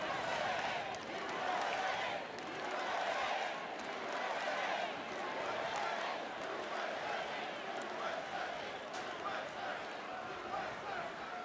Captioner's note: audience chanting "U.S.A."